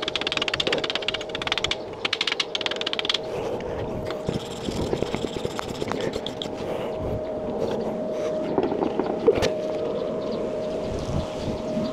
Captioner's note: wind blowing